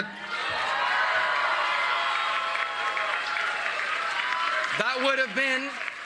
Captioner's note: applause